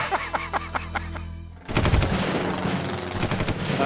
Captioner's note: laughter